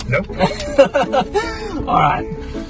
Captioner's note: chuckles